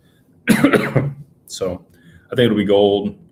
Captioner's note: cough